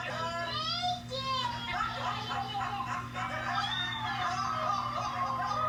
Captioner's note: laughter